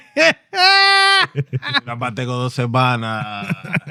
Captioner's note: laughing; speaking In Foreign Language